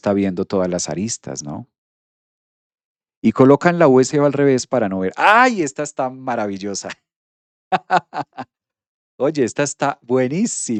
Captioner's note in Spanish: risas